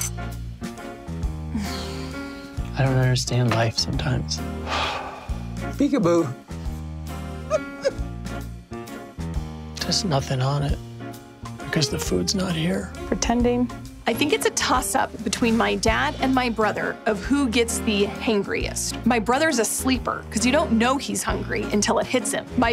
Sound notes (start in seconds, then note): 0.0 quirky music; 1.4 sighing; 4.6 sighs; 7.4 laughing